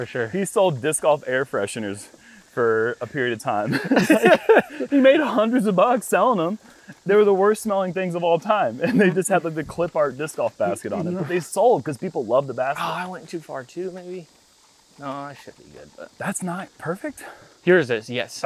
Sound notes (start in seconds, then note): 0.4 laughs